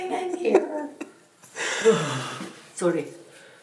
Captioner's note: Fat laughs